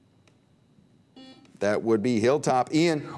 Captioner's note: buzzer beep